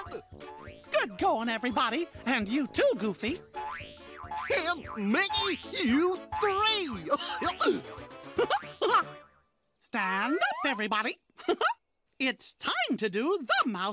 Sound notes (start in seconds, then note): 7.0 chuckling; 11.4 chuckles; 11.4 chuckling